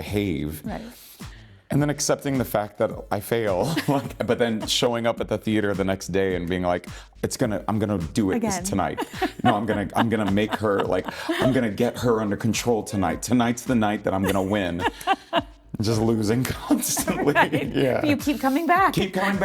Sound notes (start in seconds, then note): 15.0 laughing